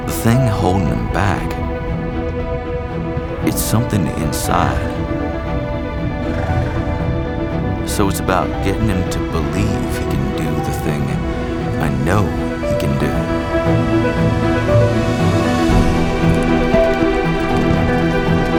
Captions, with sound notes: The thing holding him back, it's something inside. (horse snorts) So it's about getting him to believe he can do the thing I know he can do. (lively music)